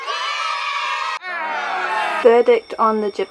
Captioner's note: cheering; booing